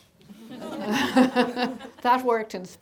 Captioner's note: laughing